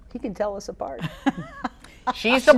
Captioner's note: laughs